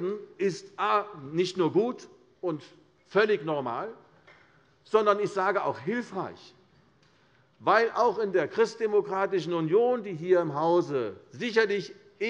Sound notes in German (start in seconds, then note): none